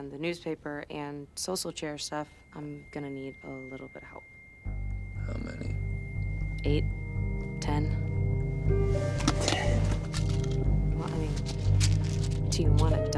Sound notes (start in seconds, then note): 11.0 pills rattling